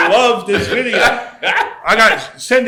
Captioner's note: laughs